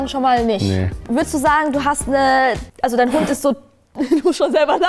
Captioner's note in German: Glucksen